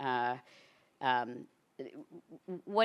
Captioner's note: none